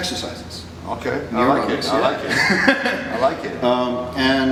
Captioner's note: chuckles